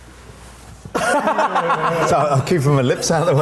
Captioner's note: group laughing